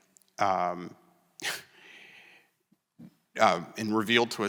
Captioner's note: scoffs